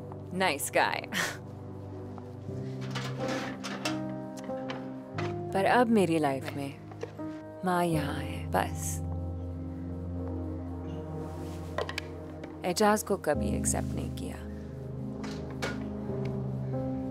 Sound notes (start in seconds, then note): 2.6 drawer opens; 15.2 drawer closes